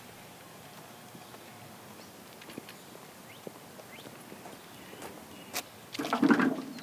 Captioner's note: birds chirping; footsteps thumping